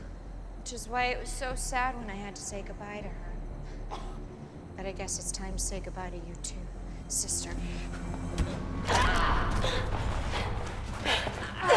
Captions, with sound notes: Which is why it was so sad when I had to say goodbye to her. But I guess it's time to say goodbye to you too, little sister. (Colette screams)